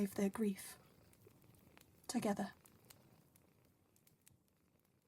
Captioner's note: fire fades